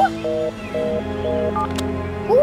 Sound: beeping

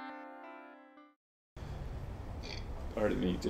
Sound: burps

